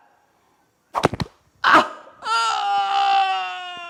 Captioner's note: aaaaaaahhhhhhggggggg